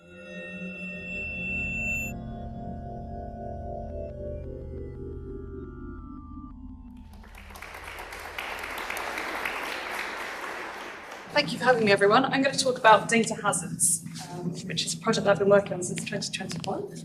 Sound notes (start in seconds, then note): 0.2 drone-like music; 7.0 applause